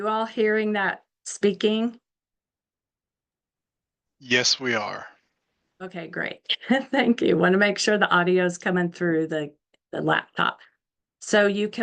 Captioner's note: giggle